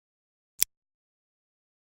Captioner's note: click